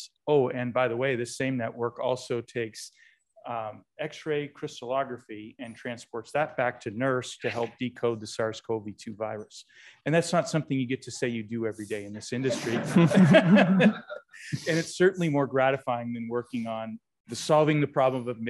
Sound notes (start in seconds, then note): 12.4 laughter